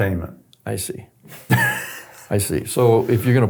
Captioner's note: laughs